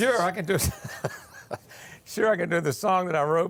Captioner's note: laughing